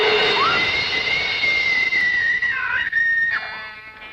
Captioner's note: screams